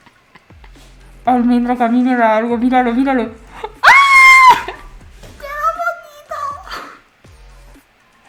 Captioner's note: is shook in spanish